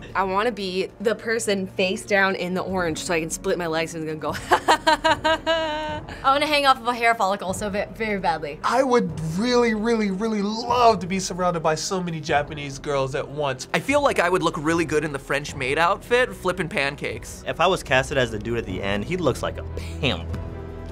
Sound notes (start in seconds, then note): 4.4 chuckles loudly